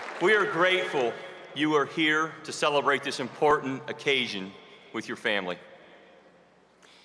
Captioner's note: cheers and applause